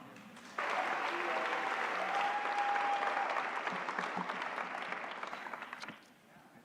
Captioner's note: applause